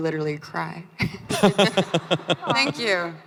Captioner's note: crowd laughing